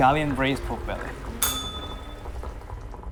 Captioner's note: bell rings